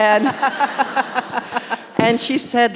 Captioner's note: laughing